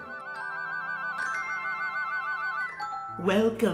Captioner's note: chimes